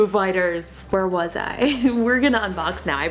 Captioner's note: laughs